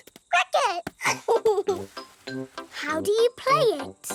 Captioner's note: giggles